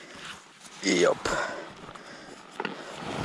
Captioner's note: more middle-aged grunting